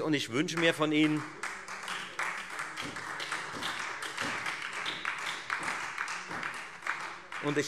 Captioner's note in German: Beifall Freie Demokraten und SPD